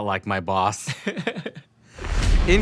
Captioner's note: both laugh